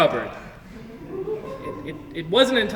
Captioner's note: audience laughs softly